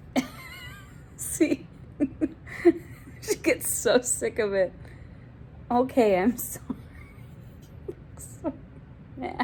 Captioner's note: laughing